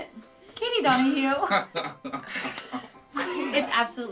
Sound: laughing

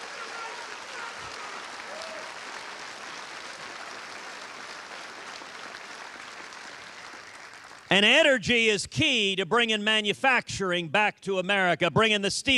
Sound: cheers and applause

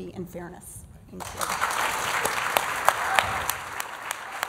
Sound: applause

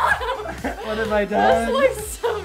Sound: laughs

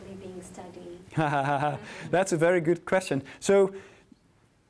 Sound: laughs

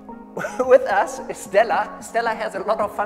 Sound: laughs

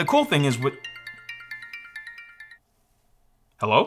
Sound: phone ringing

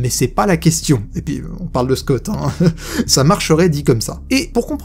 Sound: laughs

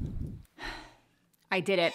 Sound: exhaling

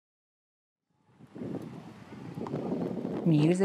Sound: wind blowing

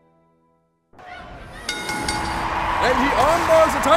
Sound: ding ding ding

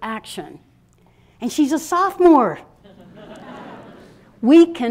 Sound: laughter

